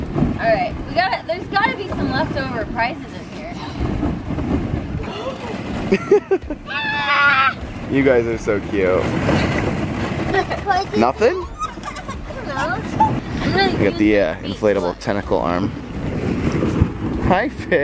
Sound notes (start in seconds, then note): 3.5 deep breath; 5.9 laughs